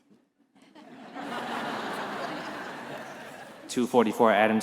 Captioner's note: attendees laughing